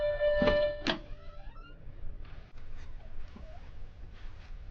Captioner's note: beeping; door creaking